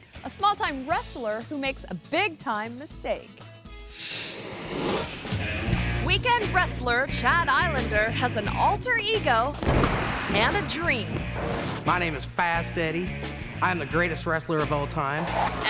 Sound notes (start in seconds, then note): 4.0 screen swooshes; 9.4 wrestlers thud